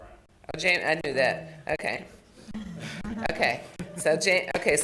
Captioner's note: chuckling